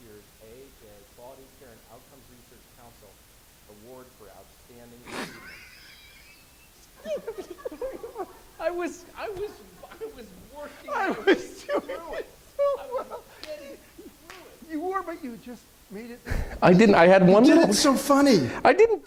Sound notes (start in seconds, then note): 6.8 laughs; 12.0 laughing